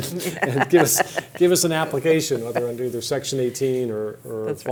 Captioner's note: laughter